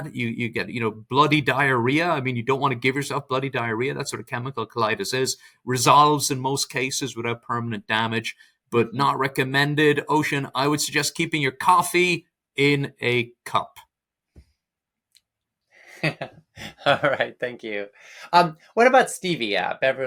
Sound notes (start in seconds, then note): 15.9 laughs